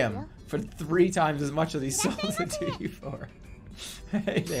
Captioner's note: giggling